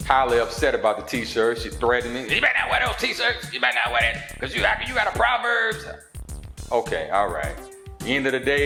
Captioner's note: In Tatyana voice